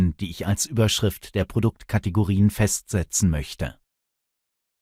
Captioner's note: German